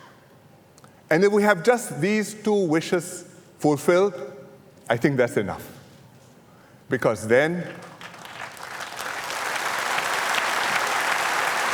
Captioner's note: applause